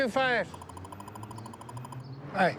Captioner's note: radar gun beeping